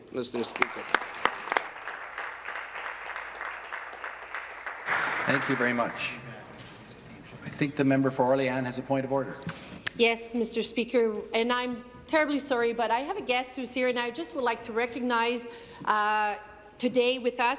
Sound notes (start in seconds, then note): 3.9 applause